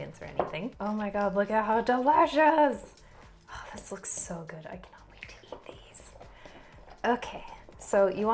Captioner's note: sighs